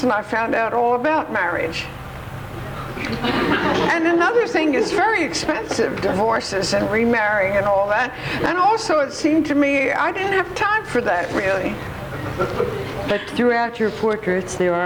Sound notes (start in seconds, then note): 2.6 audience laughs